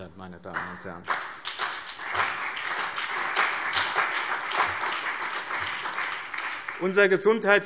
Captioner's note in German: Beifall BÜNDNIS 90/DIE GRÜNEN und CDU